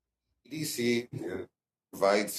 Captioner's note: speaking french